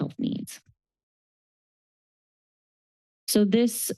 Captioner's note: pause